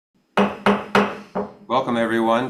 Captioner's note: gavel banging